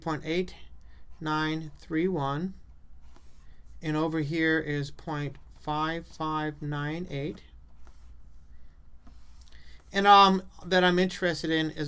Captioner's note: writing on chalkboard